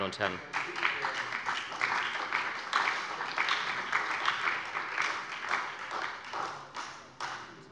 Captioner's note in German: Beifall bei der SPD